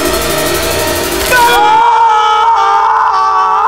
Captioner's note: Roy screams